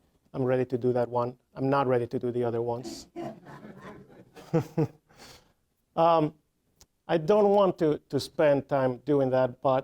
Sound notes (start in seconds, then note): 2.8 audience laughing; 2.8 chuckling